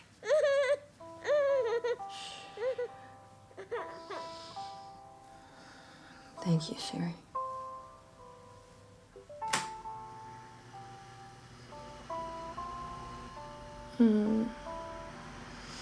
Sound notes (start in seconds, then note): 0.2 soft lullaby music; 8.8 phone beeping; 9.2 fan whirring